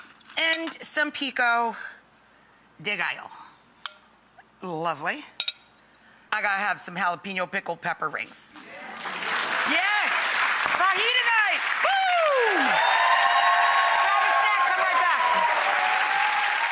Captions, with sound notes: And some pico de gallo. Lovely! I gotta have some jalapeno pickled pepper rings. Yeah! Yes! Fajita night, woo! (audience cheering) Grab a snack, come right back!